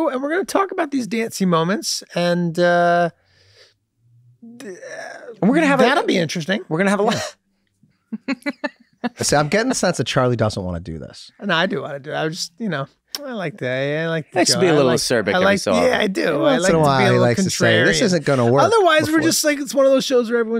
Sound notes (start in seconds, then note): 8.1 laughs